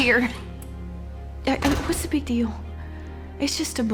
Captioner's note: door shuts